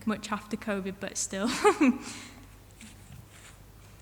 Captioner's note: chuckles